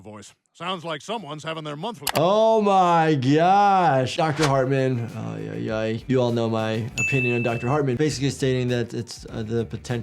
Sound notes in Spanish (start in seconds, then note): none